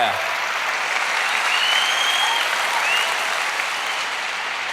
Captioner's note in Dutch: applaus